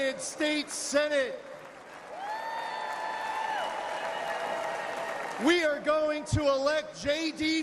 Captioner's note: applause